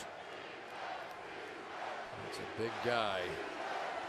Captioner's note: crowd cheering defense